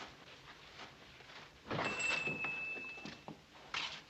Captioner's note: bell chiming